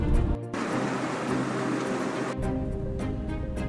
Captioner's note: loud rain